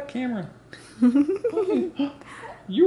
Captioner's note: giggles